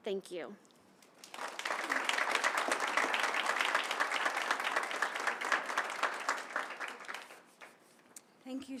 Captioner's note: applause